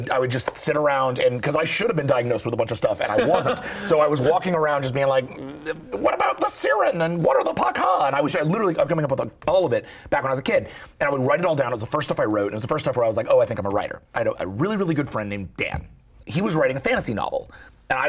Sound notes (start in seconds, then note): 3.0 laughter